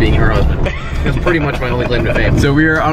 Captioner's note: laughing